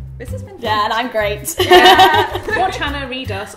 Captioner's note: laughs